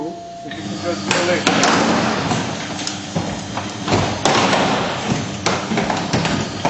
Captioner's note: loud clattering; door pops